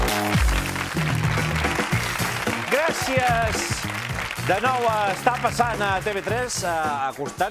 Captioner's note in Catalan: aplaudiments